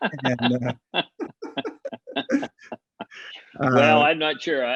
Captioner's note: laughing; both laughing